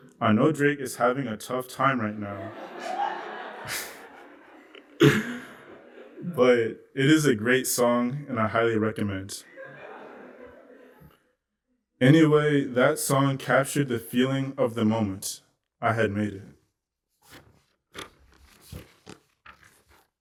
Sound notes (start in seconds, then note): 2.0 laughter